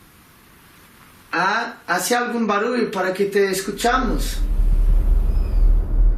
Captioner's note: speaking in foreign language; ominous music